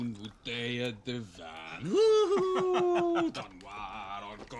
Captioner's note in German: Lacht